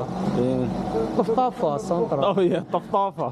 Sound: motorcycle

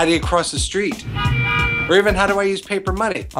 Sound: car horn honks twice

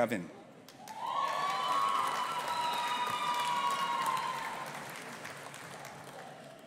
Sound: audience applauding and cheering

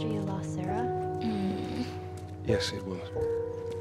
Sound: whimpering

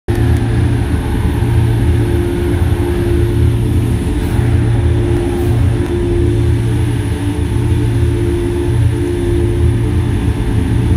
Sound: sound of cars driving and the core room

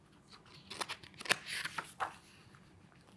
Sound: pages rustling

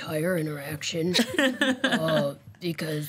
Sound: laughter

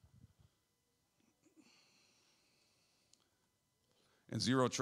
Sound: clears throat

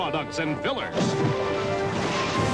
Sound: splash

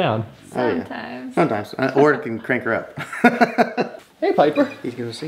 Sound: laughs

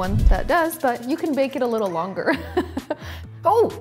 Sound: laughs

